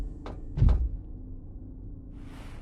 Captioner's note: thuds